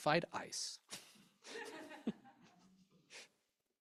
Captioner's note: chuckles